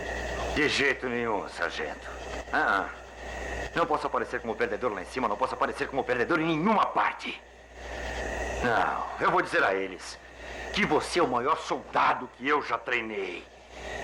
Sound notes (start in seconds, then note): none